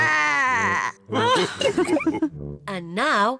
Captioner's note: growls; all laugh